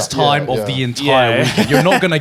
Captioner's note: chuckling